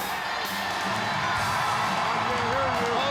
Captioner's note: upbeat rock music; crowd cheering